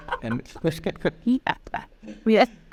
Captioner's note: laughing